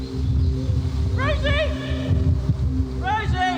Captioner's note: calls out